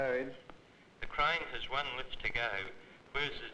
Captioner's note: speaking over radio